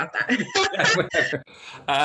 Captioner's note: laughing